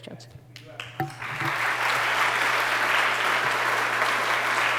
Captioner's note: applause